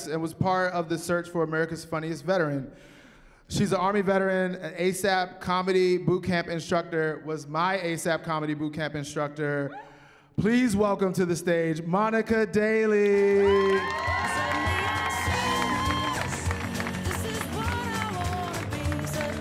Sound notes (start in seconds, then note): 13.1 cheering; 13.4 upbeat music